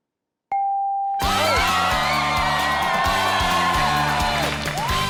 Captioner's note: audience applauding